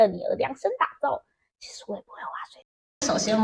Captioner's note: whispers